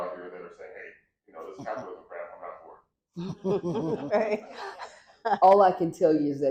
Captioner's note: laughter